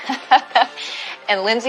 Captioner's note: laughs